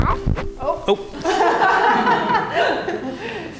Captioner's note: laughing